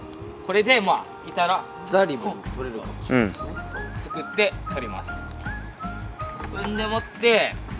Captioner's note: laughs